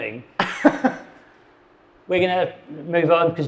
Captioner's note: laughs